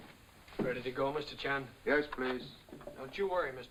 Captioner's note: none